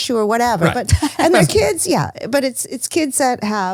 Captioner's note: laughs